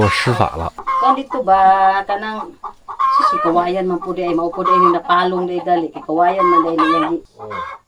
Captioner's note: chanting?